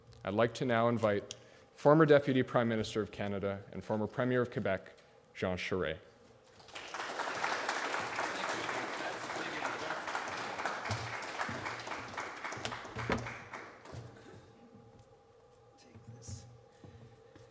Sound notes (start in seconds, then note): 6.5 audience applauding